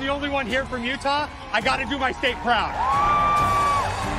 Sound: cheering

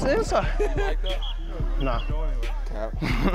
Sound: indistinct chatter; chuckling

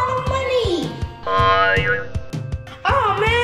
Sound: spring boinging

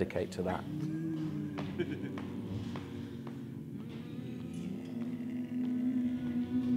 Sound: group hums; laughs

